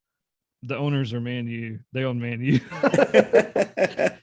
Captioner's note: laughter